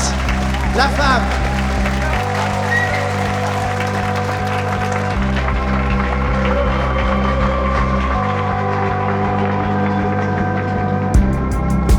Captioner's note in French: aplaudissement